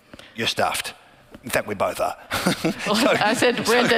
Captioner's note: laughing